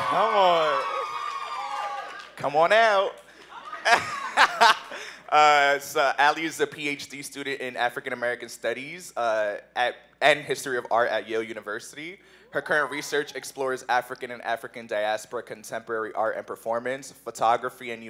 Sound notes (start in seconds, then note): 0.0 cheers; 3.4 laughs